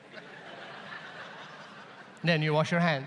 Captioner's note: audience laughs